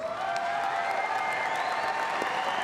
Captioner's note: applause